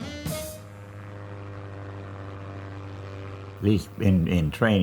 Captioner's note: airplane propellers buzzing